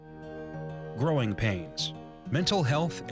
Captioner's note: voiceover